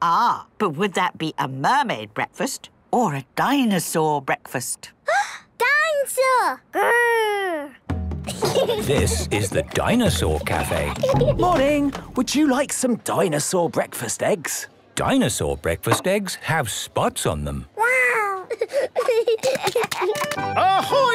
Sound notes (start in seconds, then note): 5.3 gasps; 8.2 children giggling; 18.4 giggling